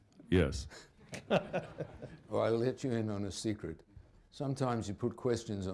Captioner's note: laughter